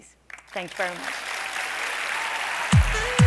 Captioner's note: applause